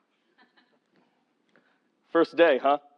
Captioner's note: laugh